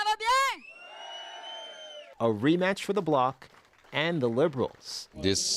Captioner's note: applause; speaking French